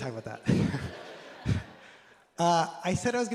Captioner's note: laughter